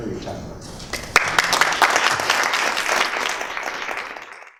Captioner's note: applause